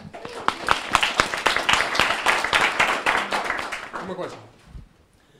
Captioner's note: audience laughing; audience applauding